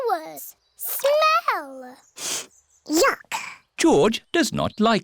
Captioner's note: sniffs